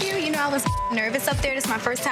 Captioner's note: beep